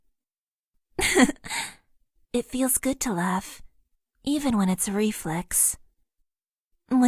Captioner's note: giggle